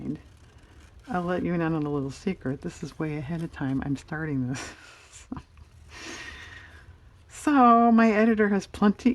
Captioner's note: laughs